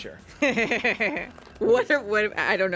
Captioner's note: woman laughs